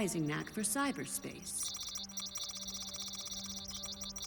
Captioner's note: keyboard keys beeping